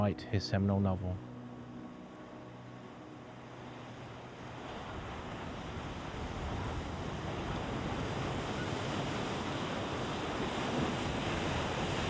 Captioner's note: sea wave sounds